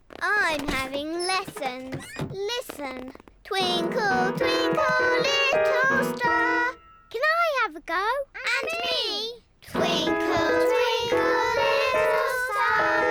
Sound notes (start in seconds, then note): 3.6 clunks discordantly